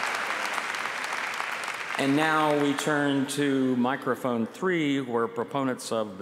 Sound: applause

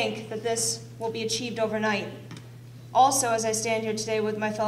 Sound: none

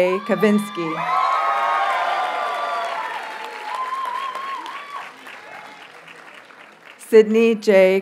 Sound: audience cheers and applauds

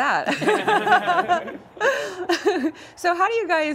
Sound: all laughing

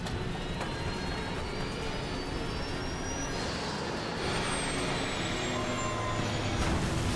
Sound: engine whistling; dramatic music

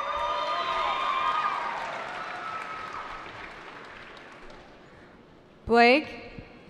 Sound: cheering

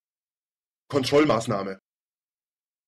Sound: fast Pronunciation

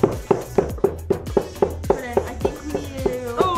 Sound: banging

